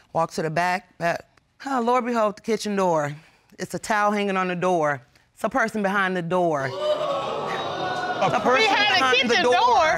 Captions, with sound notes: Walked to the back. Lo and behold, the kitchen door, it's a towel hanging on the door. -It's a person behind the door. -[audience exclaims] -A person? -Behind the kitchen door?